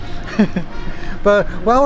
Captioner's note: laughs